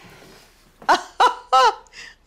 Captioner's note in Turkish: Gülme sesi